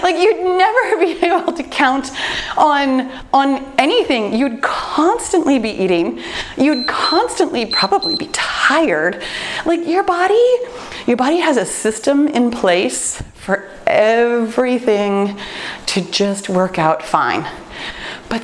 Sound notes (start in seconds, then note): 7.6 timer beeps